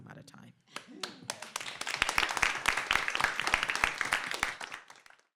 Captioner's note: applause